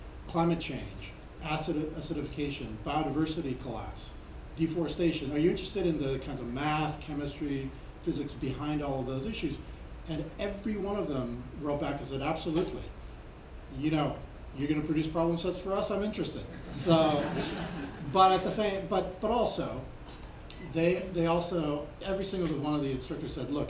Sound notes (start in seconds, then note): 16.6 laughing